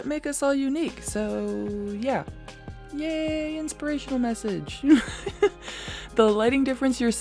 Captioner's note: laughs